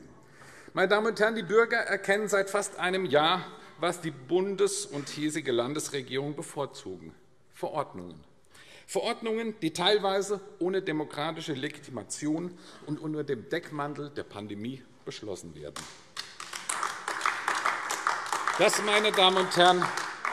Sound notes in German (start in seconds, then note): 15.7 Beifall AfD